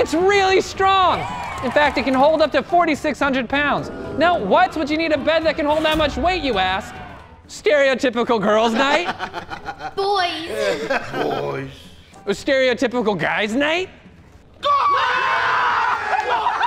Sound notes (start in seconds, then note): 8.7 laughter